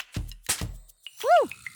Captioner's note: music and balloon noises; a balloon pops